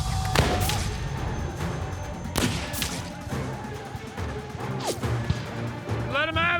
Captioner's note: gunfire